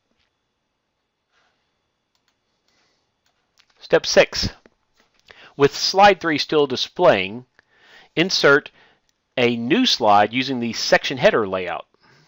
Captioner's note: click